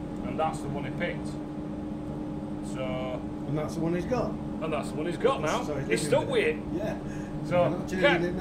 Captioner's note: laughing